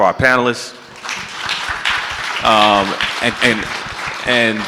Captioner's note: audience clapping